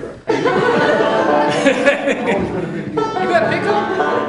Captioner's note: laughter